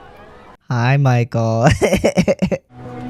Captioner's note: laugh